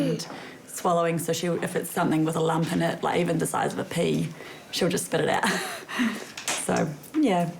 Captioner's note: laughs